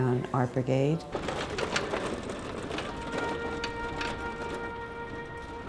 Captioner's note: traffic clattering